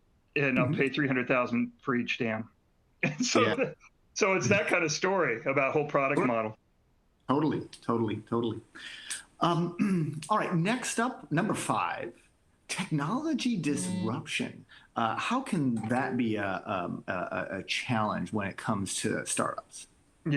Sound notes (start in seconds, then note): 3.1 laughter